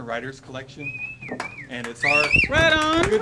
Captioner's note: whistling